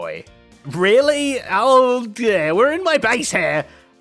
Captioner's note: concerned noises